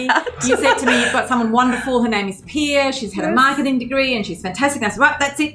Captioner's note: laughing